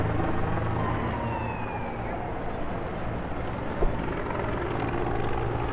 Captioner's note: sirens wail; helicopter whirs